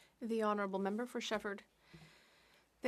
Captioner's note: speaking French